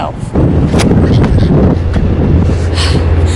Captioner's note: wind blowing